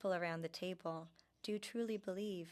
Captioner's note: speaking French